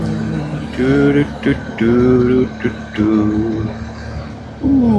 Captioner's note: engine